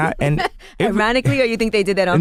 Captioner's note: laughing